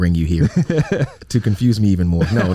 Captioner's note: chuckles